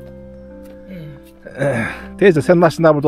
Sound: throat straightening sound

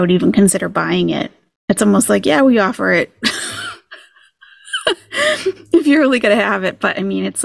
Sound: laughing

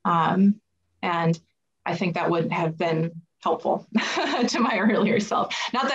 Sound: chuckles

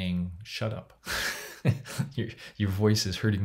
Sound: laughs

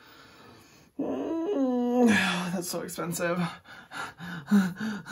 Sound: sighs loudly; panting loudly

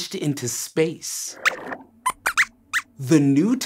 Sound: squeaks squeaks

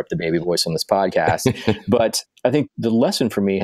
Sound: laughing

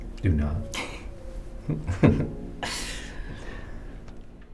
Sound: laughs

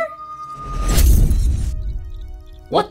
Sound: glass shattering

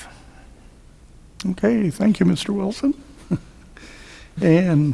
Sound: laughs

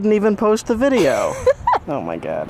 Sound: laughs

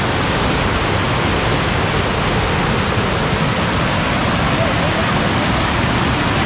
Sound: water flowing sound

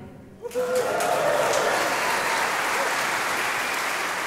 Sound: audience cheering

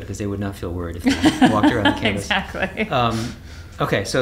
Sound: laughs

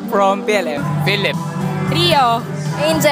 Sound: din

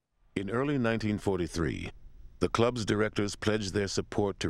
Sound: voiceover

